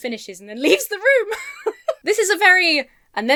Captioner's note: laughs